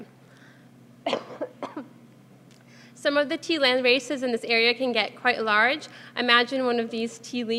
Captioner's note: cough